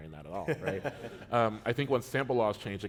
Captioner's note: chuckle